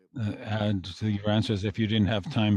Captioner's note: speaking French